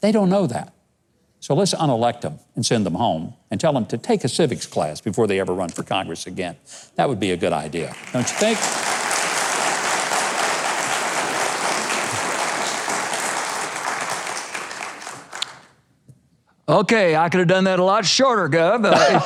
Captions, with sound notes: they don't know that. So let's, unelect them and send them home and tell them to take a civics class before they ever run for Congress again. That would be a good idea, don't ya think? (audience applauds) - Okay, I coulda done that a lot shorter, Gov.